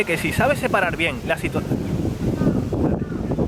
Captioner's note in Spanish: viento